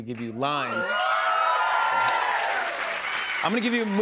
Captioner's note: cheers and applause